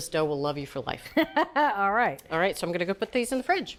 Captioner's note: laughs